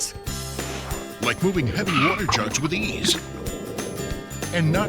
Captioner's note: voiceover